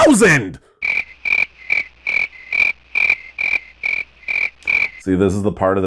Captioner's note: crickets